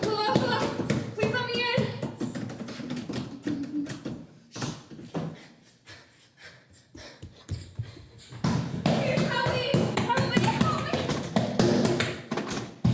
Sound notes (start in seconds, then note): 5.4 running footsteps; 8.3 banging and pounding